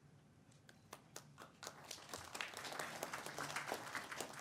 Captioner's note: audience applauds